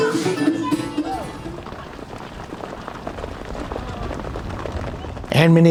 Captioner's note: hooves clattering